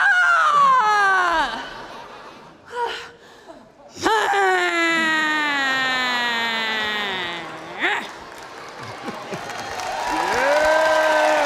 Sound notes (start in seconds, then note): 7.4 audience applauding